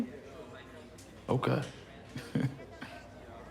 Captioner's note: chuckles